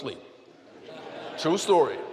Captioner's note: laughter